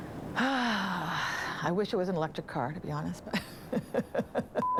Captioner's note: sighs